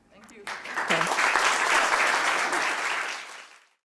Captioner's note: applause